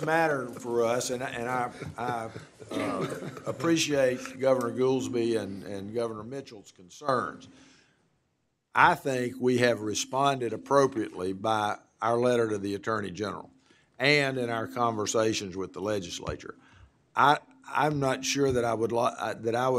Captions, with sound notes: BUT NOT GOVERNOR WILLIFORD. >> [OFF MICROPHONE]. >> THIS IS A SERIOUS MATTER FOR US, AND I APPRECIATE GOVERNOR GOOLSBY AND GOVERNOR MITCHELL'S CONCERNS. I THINK WE HAVE RESPONDED APPROPRIATELY BY OUR LETTER TO